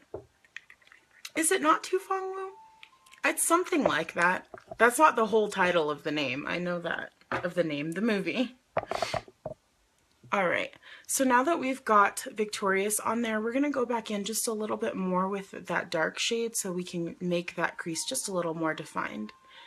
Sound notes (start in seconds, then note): 8.8 sniffs